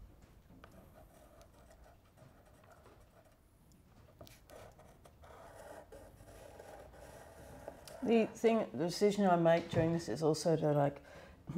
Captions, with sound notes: (pencil scraping) The thing, the decision I make during this is also to like,